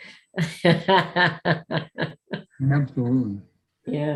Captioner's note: laughing